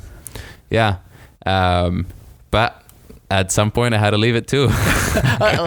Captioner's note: laughs